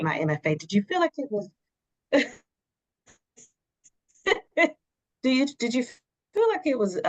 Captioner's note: laughs